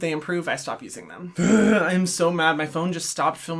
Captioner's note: groaning